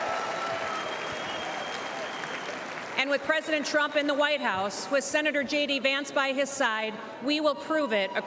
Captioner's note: cheers and applause